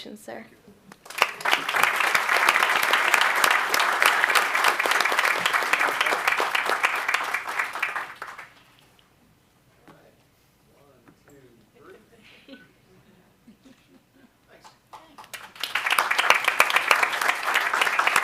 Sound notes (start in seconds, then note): 3.5 applause